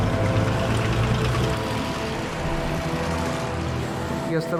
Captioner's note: tanks rumbling